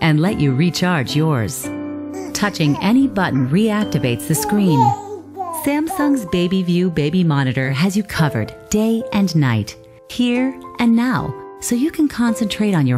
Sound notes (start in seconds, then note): 4.2 baby sounds